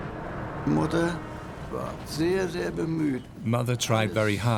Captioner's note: speaks in foreign language